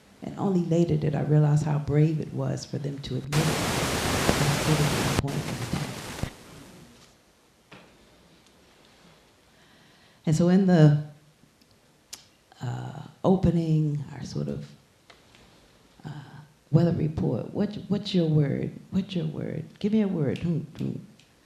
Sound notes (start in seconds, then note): 2.9 static hissing loudly